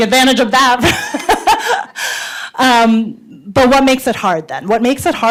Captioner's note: laughs